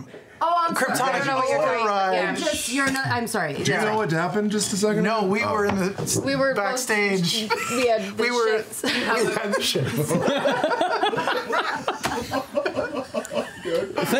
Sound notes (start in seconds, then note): 7.4 laughing; 8.8 group laughter